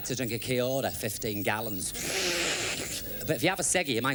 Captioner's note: imitates slurping drink